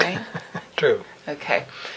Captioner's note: laughing